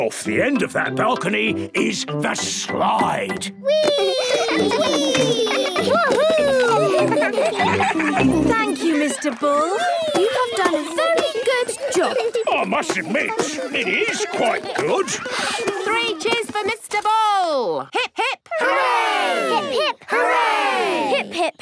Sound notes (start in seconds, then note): 7.6 giggling